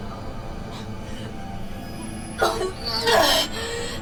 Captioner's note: vomiting